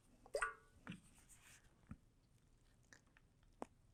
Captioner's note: water sloshing